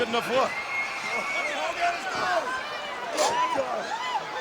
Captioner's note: crowd cheering